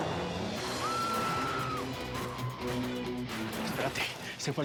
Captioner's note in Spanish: gritos